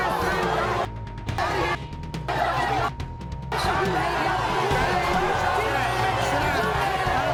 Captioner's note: audience screaming; beep